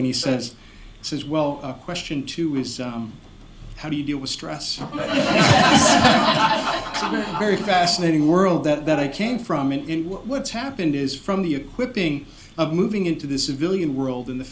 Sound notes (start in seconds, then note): 4.8 laughter